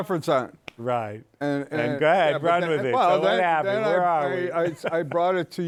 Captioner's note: laughs